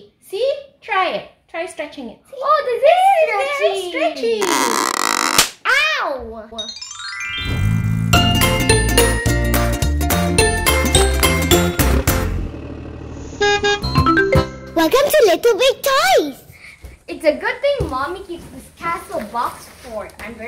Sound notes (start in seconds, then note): 4.4 dress squeaking; 6.7 stars twinkling; 8.2 upbeat music; 13.3 bus honking; 14.3 upbeat music